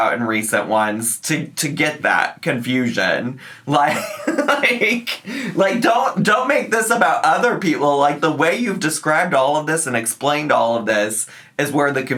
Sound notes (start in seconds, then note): 3.8 laughs